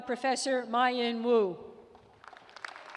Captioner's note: applause